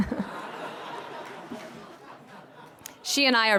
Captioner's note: laughter